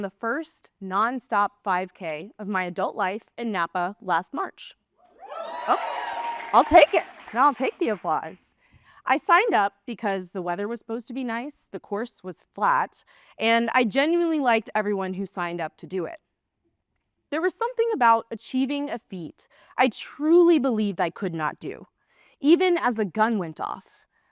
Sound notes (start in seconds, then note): 5.2 applause